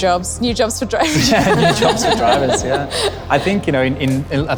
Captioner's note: all three laugh